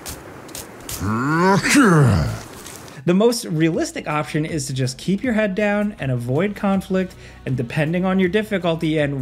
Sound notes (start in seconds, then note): 1.0 cannibal growling